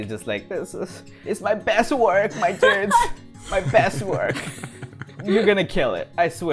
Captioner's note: laughter